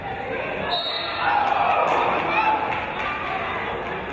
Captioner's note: referee's whistle